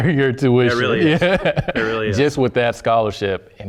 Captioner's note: laugh